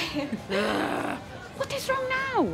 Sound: nervous laughter; groan

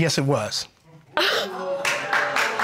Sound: gasps

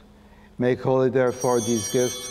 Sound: bells ringing

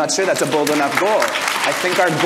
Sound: audience applause

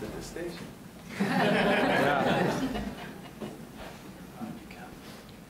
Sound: audience laughs

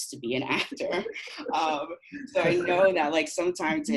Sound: laughing

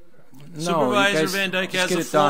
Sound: overlapping chattering

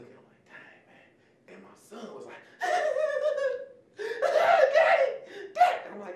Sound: giggling

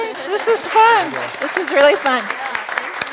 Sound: applauding

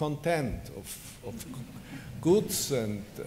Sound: laughter

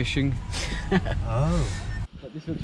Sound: chuckling

